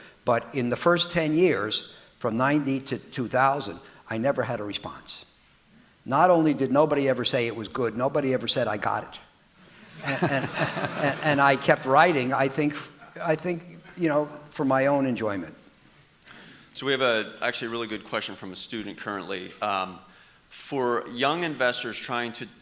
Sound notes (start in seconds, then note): 9.8 audience laughing